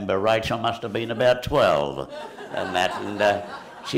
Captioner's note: laughter